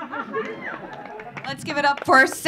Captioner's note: audience laughing